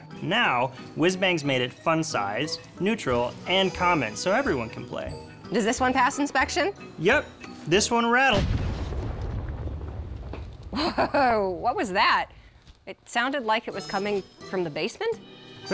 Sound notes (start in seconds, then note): 8.3 explosion